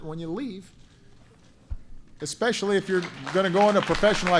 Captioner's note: applause